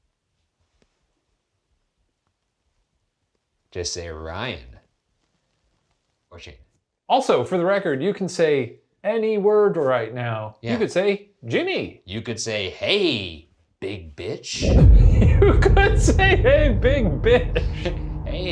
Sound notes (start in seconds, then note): 14.6 laughing